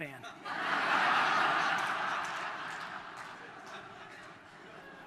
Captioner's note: audience laughter